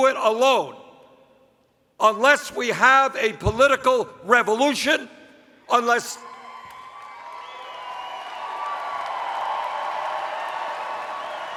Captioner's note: interrupted by cheers